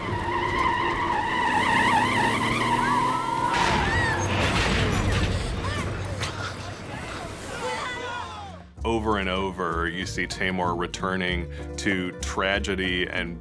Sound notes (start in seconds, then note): 0.0 tires screeching; 5.1 passengers yelping